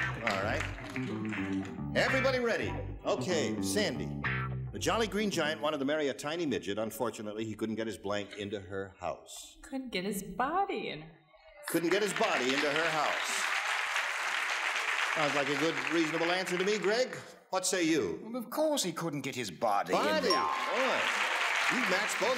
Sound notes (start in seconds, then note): 13.4 audience applause; 20.0 audience applause; 20.2 dings